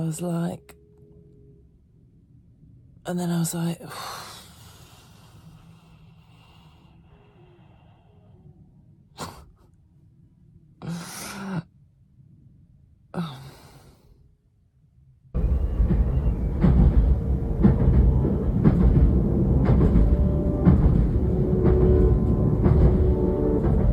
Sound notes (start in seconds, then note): 5.5 sighs; 9.9 laughs; 13.1 sighs; 15.3 background train; 15.4 emotive piano music